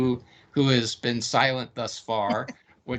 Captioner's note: laughing